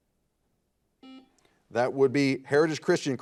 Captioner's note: buzzer beeping